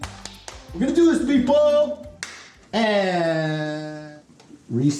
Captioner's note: loud hand claps; sync hand clap